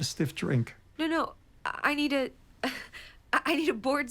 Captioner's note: laughs nervously